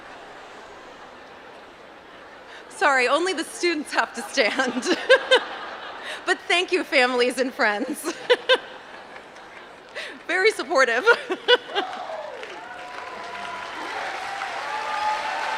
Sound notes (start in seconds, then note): 5.1 laugh; 11.5 applause